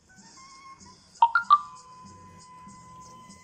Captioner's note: message alert tone